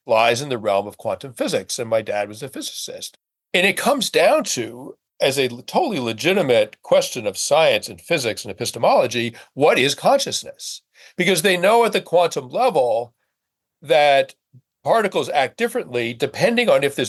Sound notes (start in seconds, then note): none